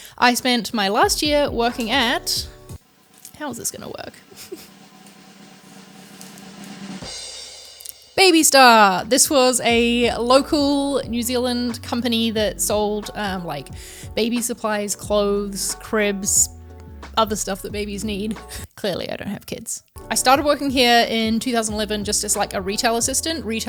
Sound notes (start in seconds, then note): 4.0 drum roll; 4.2 laughs